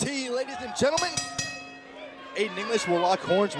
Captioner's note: bell ringing